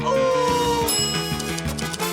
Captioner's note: bell dings